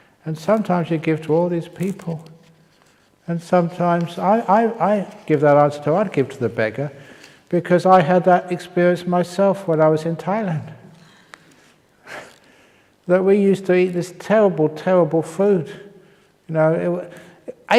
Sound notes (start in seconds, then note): 12.6 chuckle